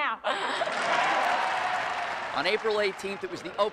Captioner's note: applause